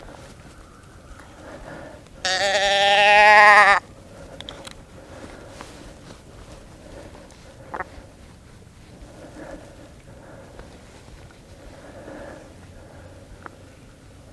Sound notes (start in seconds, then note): 2.2 calls